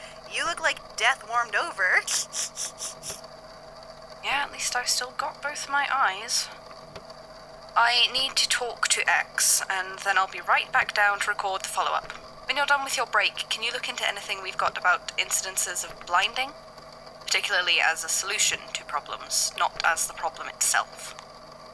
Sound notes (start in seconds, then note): 2.0 snicker; 4.6 under his breath